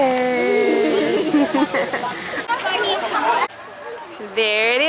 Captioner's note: laughing